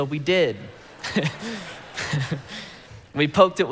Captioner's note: congregation laughing